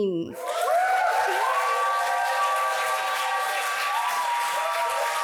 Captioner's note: audience applauds